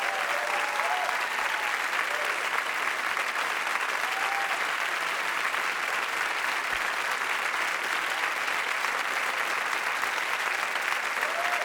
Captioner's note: audience applauding